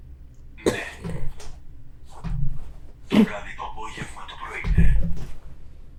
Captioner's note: achmet – artificial male voice